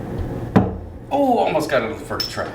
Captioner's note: ring thuds